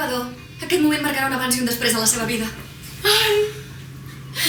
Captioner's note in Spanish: tono irónico